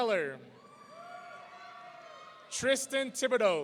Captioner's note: audience cheering